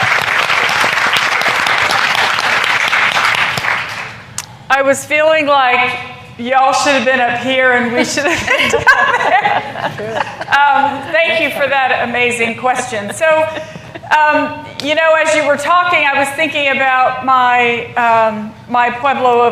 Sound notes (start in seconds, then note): 1.7 applause; 12.7 laughter